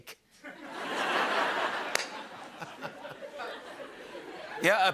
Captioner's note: laughter